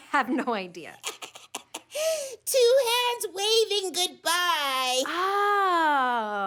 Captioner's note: chuckles